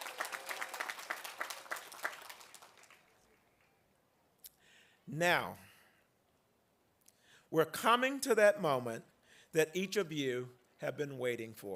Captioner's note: applause